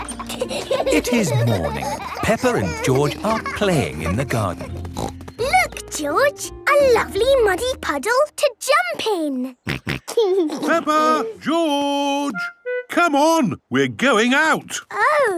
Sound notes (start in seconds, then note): 4.5 snorting; 9.6 snorting and giggling